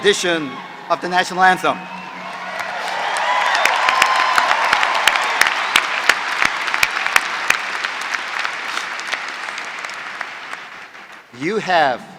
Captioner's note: applause